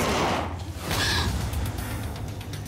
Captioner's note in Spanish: Disparo